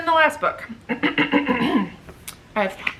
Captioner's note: clears throat dramatically